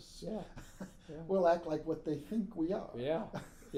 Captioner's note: laughing